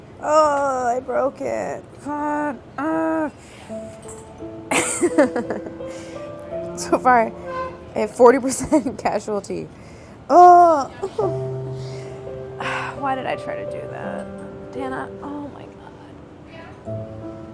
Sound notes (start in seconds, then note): 4.6 laughs; 5.1 somber piano music